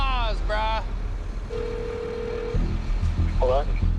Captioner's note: cellphone ringing